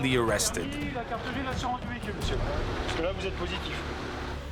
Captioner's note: French spoken audio